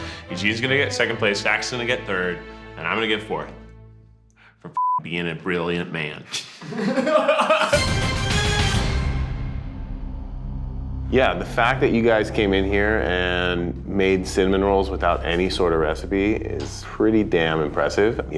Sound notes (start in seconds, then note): 4.8 beeps; 6.5 laughs; 6.6 dramatic music